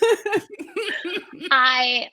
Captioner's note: laughter